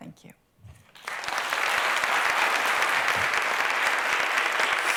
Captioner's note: applause